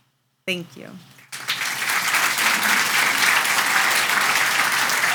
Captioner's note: audience applauds